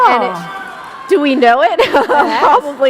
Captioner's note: laughter